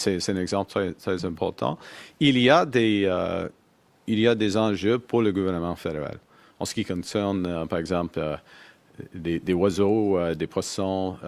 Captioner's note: speaks French